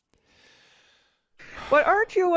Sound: sighs

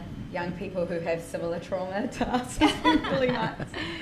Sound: laughs

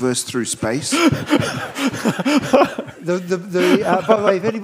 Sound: laughs

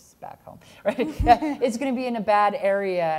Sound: laughs

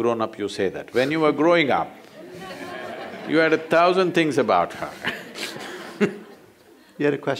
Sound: laughs; laughter

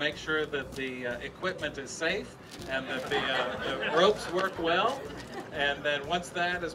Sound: laughter from audience

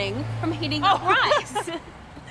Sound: both laughing

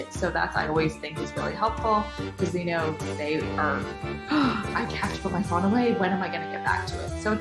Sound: gasping noise

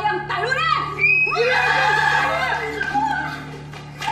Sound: all scream

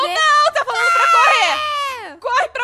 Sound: screams

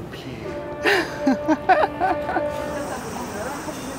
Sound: laughs

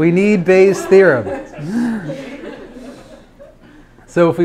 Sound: class laughs

